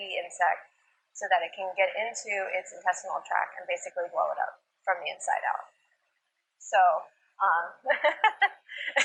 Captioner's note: laughter